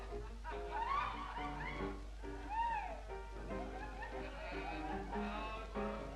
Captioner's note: muffled laughter, chatter and music